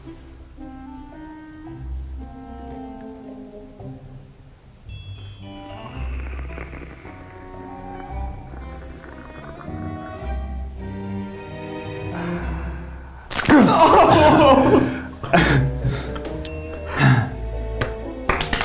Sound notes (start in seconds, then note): 0.3 ponderous music; 5.5 slurping; 13.3 water sploshing; 13.4 laughing; 14.0 bell rings